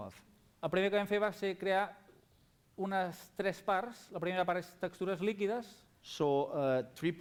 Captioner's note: non-english speech